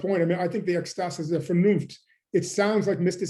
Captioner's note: german